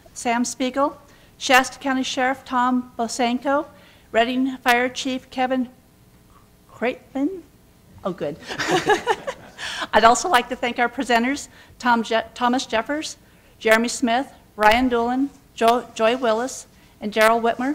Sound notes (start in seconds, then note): 8.4 laughter